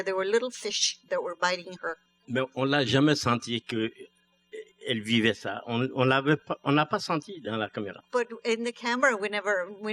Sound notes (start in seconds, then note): 3.8 speaking french